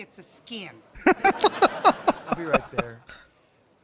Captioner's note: laughing